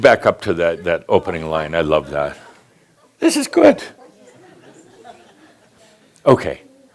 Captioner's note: a few chuckles